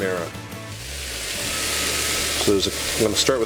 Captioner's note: sizzling